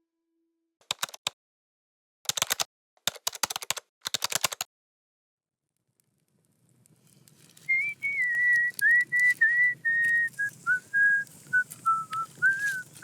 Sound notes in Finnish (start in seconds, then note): 7.5 vihellys